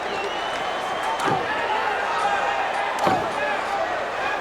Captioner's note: crowd clamors